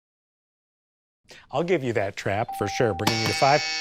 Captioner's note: silence; bell; buzzer